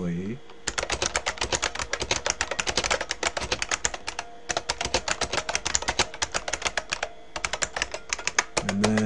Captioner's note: typing